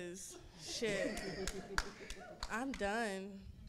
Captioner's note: audience laughing; clapping